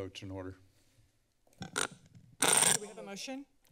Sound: creaking sound

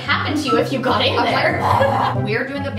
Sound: growls

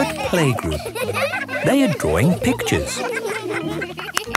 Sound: laughter

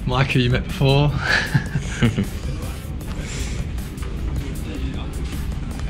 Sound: laughs

